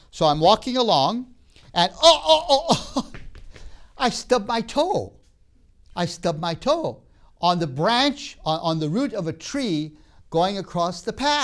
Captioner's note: laughs